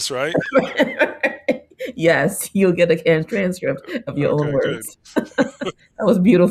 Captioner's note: laughs